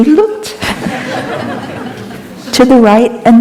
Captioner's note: laughter